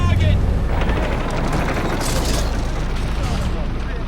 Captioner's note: rapid gunfire